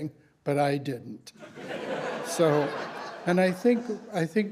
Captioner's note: laughter